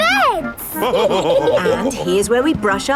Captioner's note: all laughing